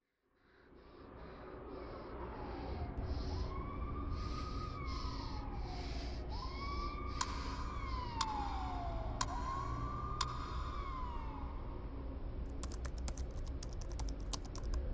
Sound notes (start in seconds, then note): 0.3 breathing; 2.2 ambulance hooter